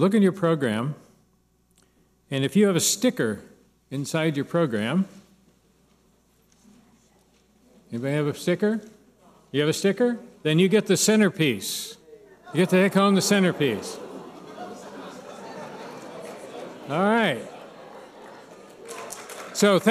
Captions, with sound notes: Look in your program. If you have a sticker inside your program. Anybody have a sticker? You have a sticker? Then you get the centerpiece. (cheers) You get to take home the centerpiece. (audience murmurs)